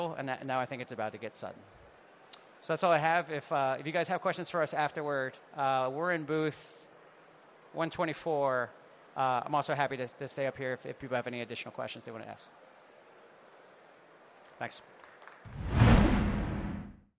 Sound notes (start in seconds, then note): 14.8 audience clapping